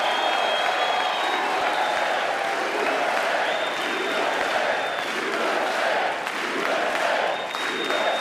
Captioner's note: applause